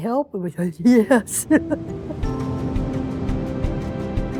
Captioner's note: laughs; inspiring music